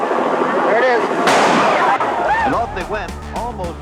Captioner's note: starting gun fires